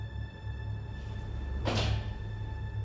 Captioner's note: wall hit